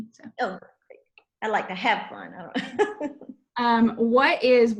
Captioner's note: laughs